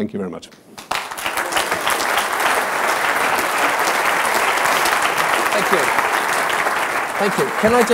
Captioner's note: applause